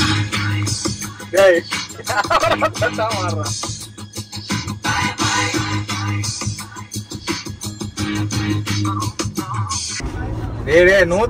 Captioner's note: Laughs